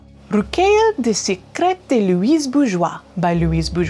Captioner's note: speaking in foreign language